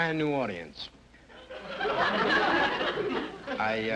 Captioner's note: audience laughter